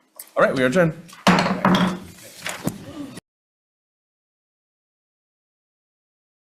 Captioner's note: loud thump